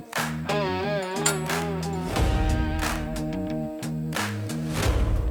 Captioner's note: sound of steel-to-steel clinking